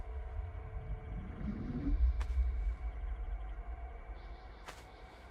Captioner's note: electronic warbling